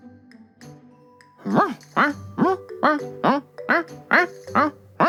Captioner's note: barking